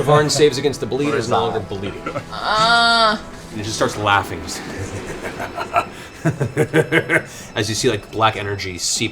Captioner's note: laughs